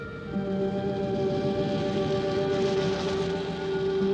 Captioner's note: car engine running